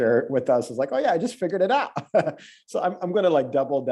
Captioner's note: laughs